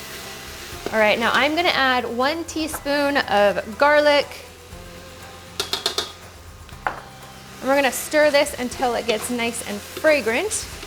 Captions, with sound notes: All right, now I'm going to add one teaspoon of garlic. (wok tapping) And we're going to stir this until it gets nice and fragrant,